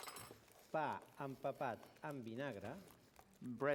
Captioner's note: non-english speech